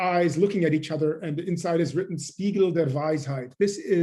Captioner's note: german